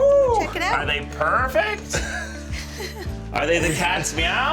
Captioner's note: laughs